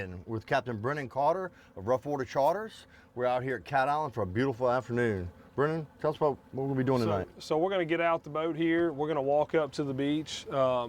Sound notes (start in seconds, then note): none